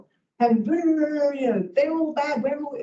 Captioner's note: mouth rumbling